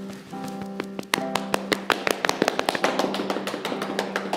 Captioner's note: clapping